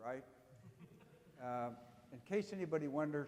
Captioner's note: audience chuckling